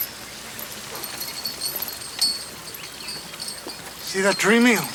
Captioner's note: chain rattles